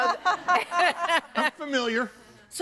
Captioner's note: audience laughing